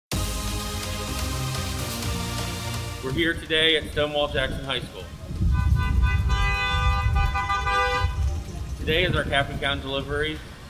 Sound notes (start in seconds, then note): 0.1 upbeat music; 5.4 car honking